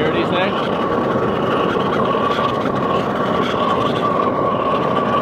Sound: fire roaring

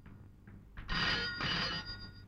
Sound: phone ringing

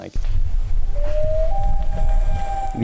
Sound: loon wooping

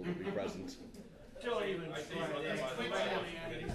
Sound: background Talking

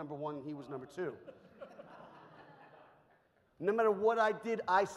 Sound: audience laughs

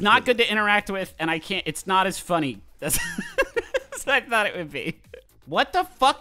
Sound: laughs

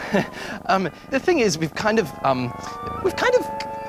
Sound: cat purrs

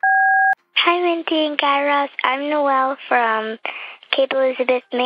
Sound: soundbite of beep

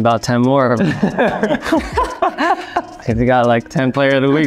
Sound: Jeremy and Joe laughing

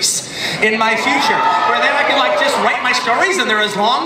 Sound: audience cheering

